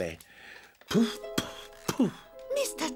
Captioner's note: blowing